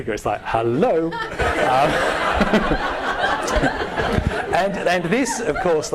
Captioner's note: all laughing